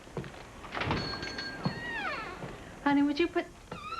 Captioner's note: bell dings